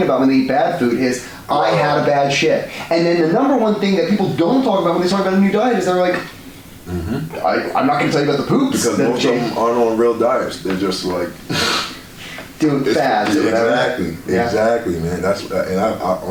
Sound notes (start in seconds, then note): 12.1 laughs